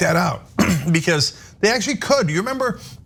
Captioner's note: cough